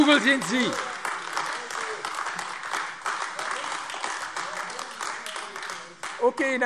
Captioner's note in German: Beifall AfD